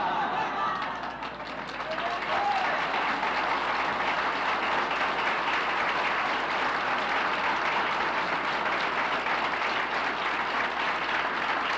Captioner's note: laughs; applauses